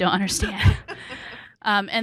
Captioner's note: laughing